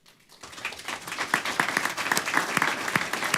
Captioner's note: applause